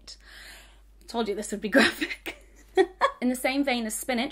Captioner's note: laughs